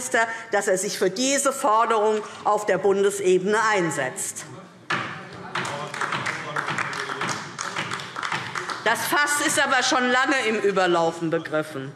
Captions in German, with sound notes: dass er sich für diese Forderung auf Bundesebene einsetzt. [Beifall DIE LINKE - Zuruf BÜNDNIS 90/DIE GRÜNEN] Das Fass ist aber schon lange im Überlaufen begriffen: